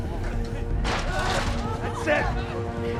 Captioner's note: ladder clanking